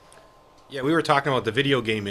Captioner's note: voiceover